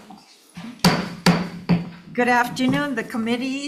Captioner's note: banging gavel